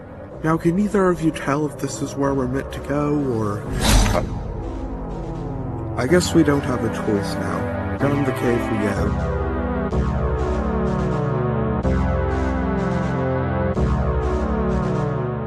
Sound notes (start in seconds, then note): 3.6 strange whoosh